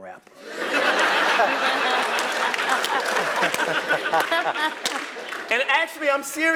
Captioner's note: laugh